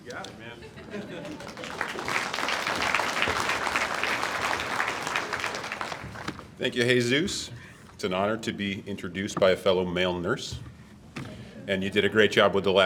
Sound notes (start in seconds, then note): 1.0 audience applauds